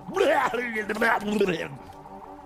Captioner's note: laughs